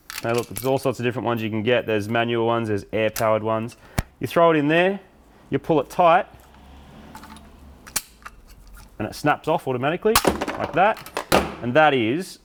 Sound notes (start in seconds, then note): 7.8 rivet gun clicks; 10.1 clattering